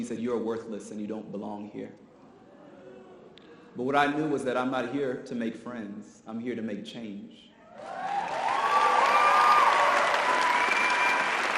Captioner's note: audience applause